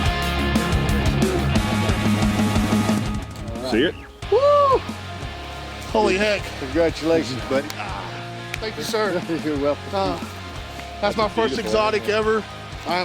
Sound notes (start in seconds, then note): 4.2 yells; 8.7 laughs